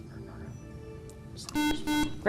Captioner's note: buzzer